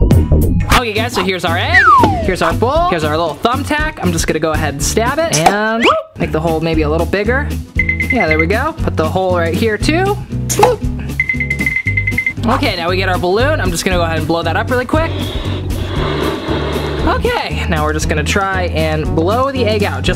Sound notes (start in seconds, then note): 11.5 jingling; 15.1 air whooshing